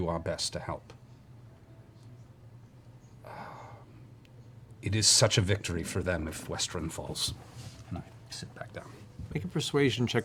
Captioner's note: sighs